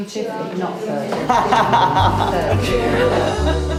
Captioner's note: laughs